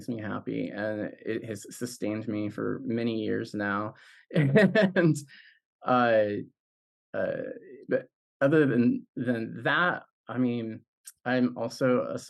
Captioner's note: laughs